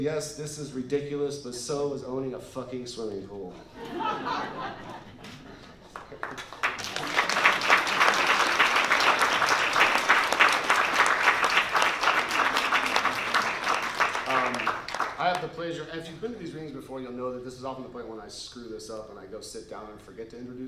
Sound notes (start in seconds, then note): 3.7 laughter and applause